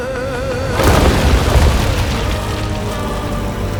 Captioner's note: crash